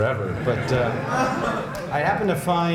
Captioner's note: laughter